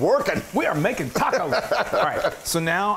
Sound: laugh

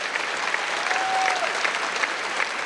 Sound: cheers and applause

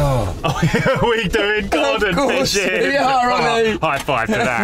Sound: laughs loudly

